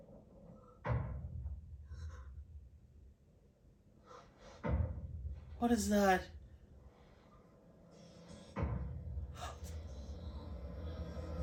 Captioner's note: loud banging can be heard all the way inside